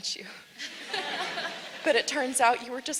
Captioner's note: audience laughs